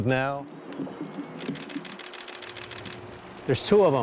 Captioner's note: camera shutters click